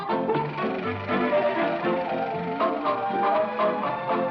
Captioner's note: reel clicking